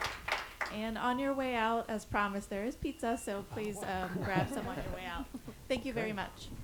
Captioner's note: laughter